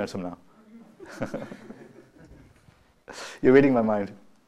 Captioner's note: laughter